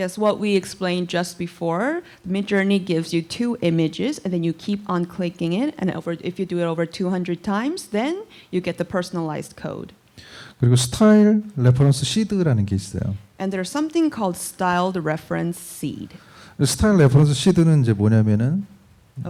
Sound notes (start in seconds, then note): 10.6 speaking korean; 16.5 speaking korean